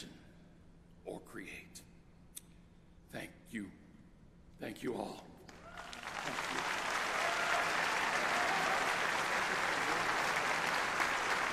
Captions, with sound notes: IMAGINE OR CREATE. THANK YOU, THANK YOU ALL. [APPLAUSE]